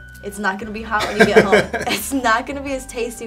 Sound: laughing

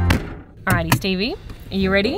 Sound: car trunk slamming

